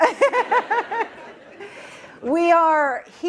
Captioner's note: laughter